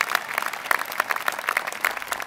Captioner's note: applause